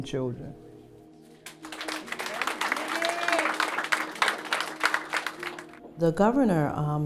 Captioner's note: clapping